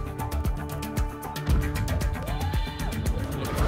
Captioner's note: thump